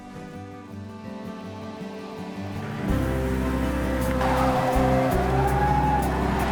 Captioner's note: gentle music; engine rumbling